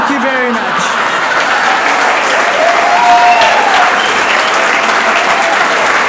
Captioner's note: audience cheers and applauds